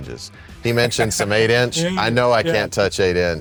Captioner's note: laughing